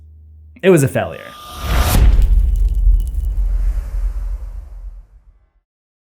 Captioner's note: impact